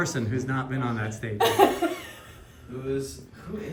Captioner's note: laughing